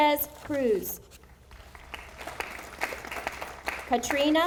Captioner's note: audience applauding